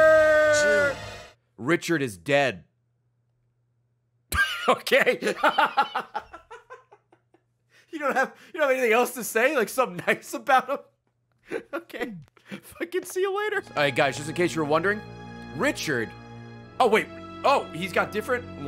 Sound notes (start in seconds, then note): 4.4 laughs